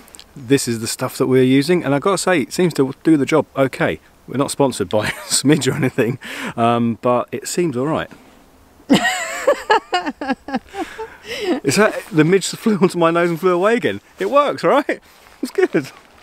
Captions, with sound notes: This is the stuff that we're using and I gotta say it seems to do the job okay. We're not sponsored by Smidge or anything but it seems all right! [Laughing] The midge flew onto my nose and flew away again it works right? It's good